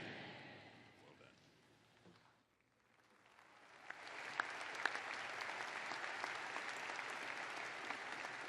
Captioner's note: applause